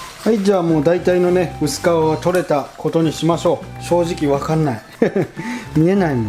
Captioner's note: haha